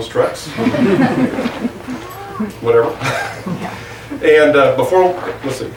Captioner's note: audience laughs